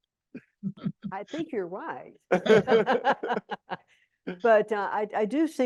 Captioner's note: laughs